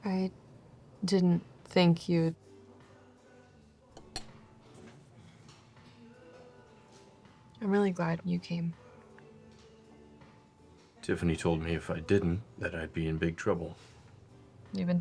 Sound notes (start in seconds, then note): 3.9 silverware clinking